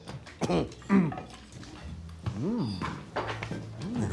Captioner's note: Dale coughs